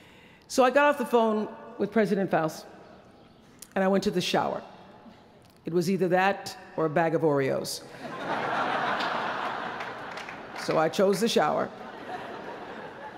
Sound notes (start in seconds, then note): 7.9 laughter